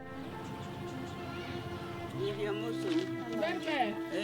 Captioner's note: chattering